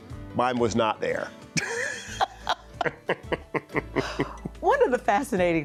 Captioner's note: laughing